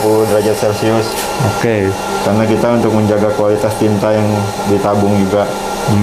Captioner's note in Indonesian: suara mesin